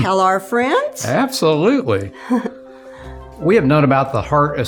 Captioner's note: chuckles